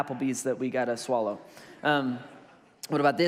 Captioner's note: congregation laughs